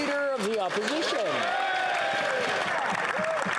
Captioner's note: some Applause